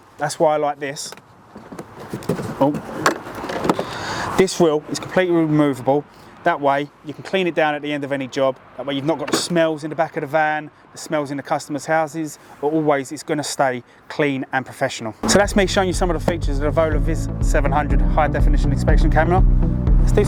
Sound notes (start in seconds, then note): 2.0 contents rattling; 3.1 case clatters